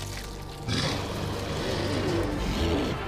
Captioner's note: sphinx growling; intense music